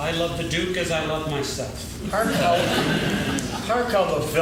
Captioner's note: laughing